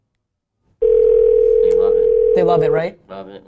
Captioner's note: phone ringing